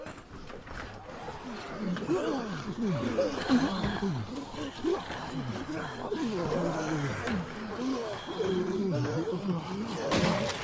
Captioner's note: zombies growling; gun shots